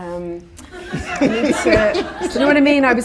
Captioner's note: audience laughter